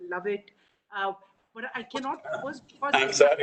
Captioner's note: laughs